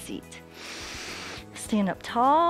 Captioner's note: inhales